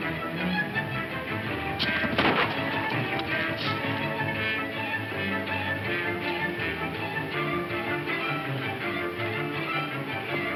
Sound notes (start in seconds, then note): 2.1 gun firing; 3.5 upbeat dramatic music